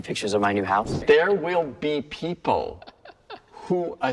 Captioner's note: chuckles